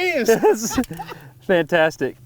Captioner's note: laughs